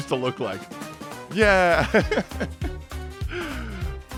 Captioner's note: giggles